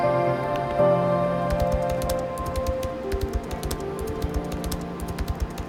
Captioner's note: keyboard Typing